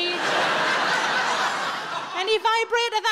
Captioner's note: audience laughing